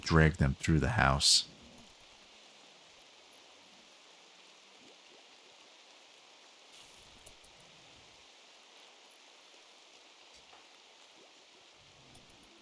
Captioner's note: silence